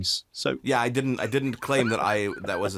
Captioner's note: laughing